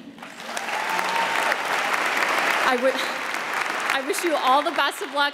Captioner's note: audience applauds